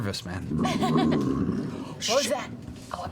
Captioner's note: growling